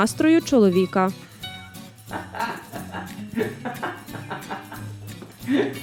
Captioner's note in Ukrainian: сміється